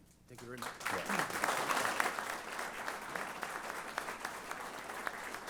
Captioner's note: applause